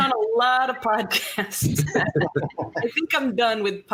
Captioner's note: chuckling